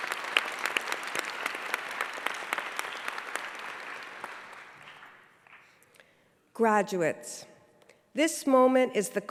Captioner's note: applause